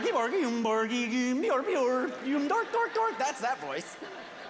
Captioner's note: Swedish gibberish as Chef; laughter